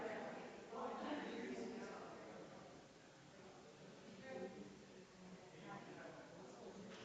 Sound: people chattering distantly continues

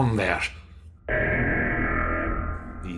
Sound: alarm

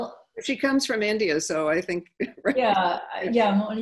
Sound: laughing

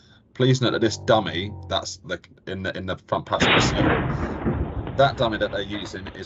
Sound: booming crash

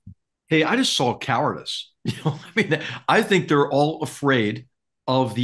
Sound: laugh

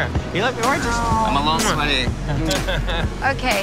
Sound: chuckles

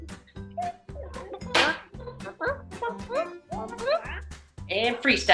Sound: chicken noises

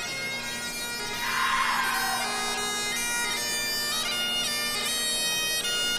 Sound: audience member cheers

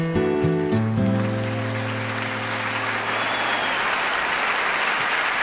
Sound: audience applauding

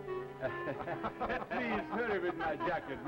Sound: laughter

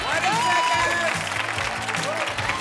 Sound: cheers and applause

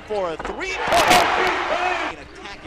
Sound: loud cheering

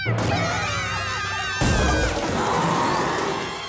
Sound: screaming; roaring

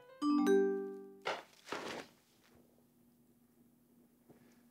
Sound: message chimes

